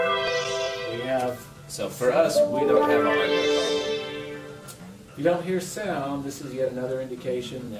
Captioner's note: chime sound